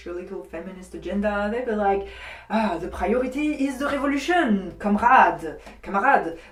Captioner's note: russe accent